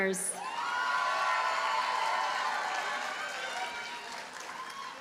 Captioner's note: audience cheers and applauds